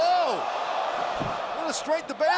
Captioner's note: crowd cheering